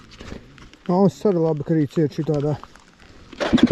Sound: pop

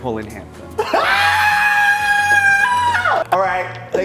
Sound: laughs

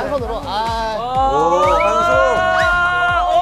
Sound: exclaiming

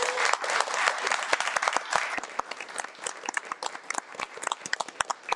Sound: audience clapping

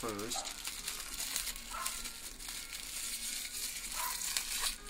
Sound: paper rustling

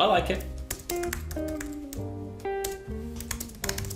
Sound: keys clicking

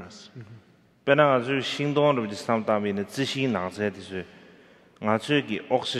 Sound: speaking in foreign language

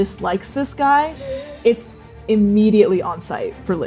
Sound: laughing

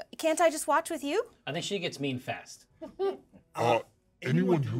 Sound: speaker chuckles

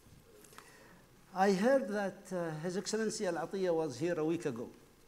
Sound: speaking foreign language

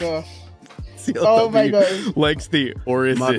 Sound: all laugh

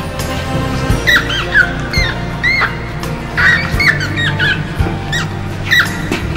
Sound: gentle acoustic music; rat squealing

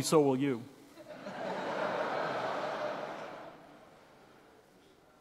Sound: laughs; audience laughing

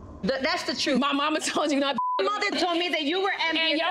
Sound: beep

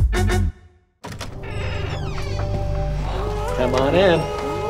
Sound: door opening

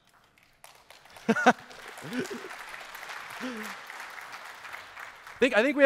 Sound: applause

